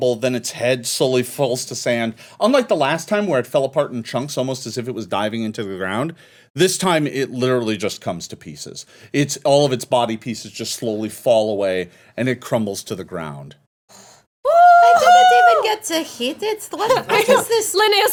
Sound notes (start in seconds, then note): 14.4 woman cheering